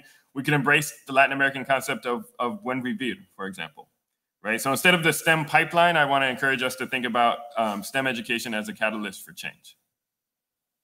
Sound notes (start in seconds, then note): 2.3 speaking Spanish